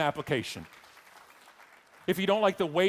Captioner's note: audience clapping